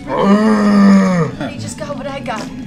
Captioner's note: bear noises